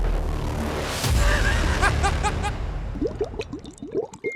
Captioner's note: laughter